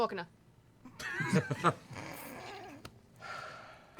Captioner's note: laughter